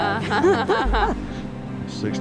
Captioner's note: laughing